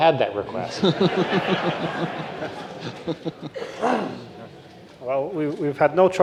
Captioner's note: laughing